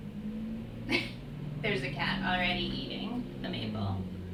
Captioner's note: laughs